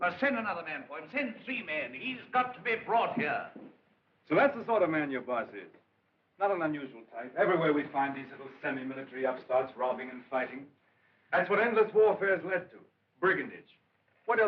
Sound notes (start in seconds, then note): none